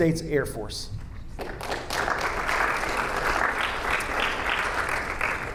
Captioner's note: audience applauding